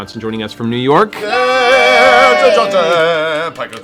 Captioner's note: cheering